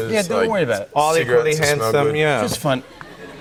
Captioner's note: laughter